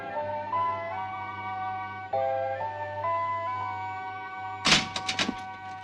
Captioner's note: door opens